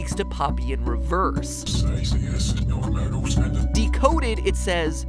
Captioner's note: demonic voice